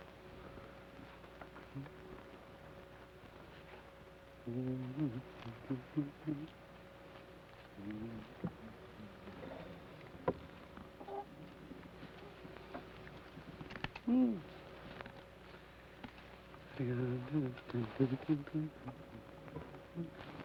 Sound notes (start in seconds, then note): 4.6 Joshua hums melodically; 16.8 Joshua hums melodically